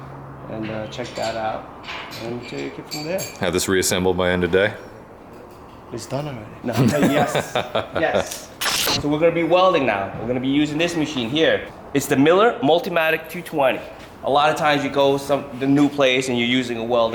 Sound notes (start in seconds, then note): 6.7 laughing